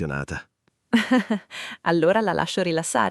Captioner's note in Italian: Haha